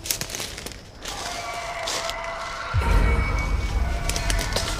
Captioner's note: crunching footsteps; howling